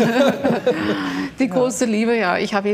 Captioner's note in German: Lachen